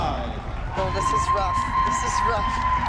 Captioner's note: crowd cheering